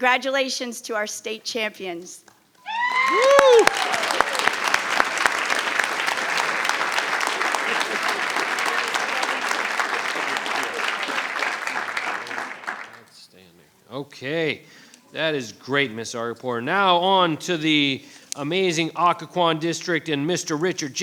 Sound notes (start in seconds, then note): 5.3 audience applauding